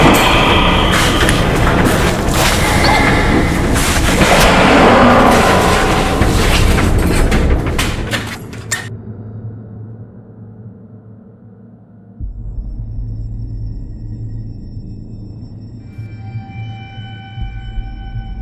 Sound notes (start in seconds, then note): 2.7 Maya grunts; 4.4 skinwalker roars